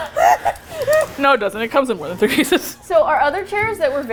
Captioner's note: laughs hysterically; laughs